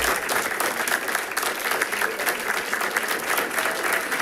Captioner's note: people clapping